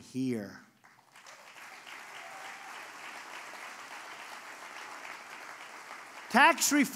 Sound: applause

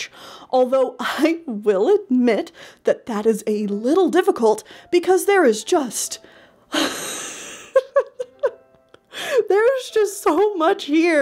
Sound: laughs

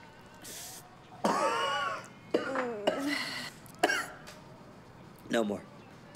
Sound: coughing

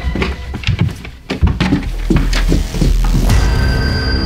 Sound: dramatic orchestral music; footsteps clomping; door clunks

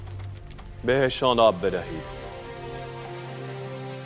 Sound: Mardonius speaking in foreign language; Xerxes speaking in foreign language; dramatic orchestral music

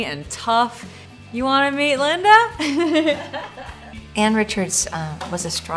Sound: laugh

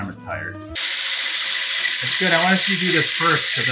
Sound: electric whisk whirs

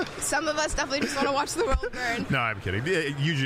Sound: both laughing

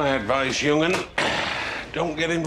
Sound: sigh

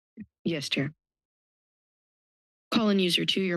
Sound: pause

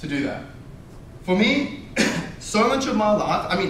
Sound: coughs

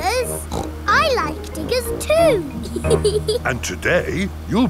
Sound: snorts; laughs

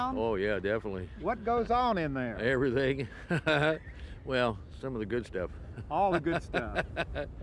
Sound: creepy laughter

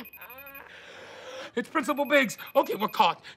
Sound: gasps

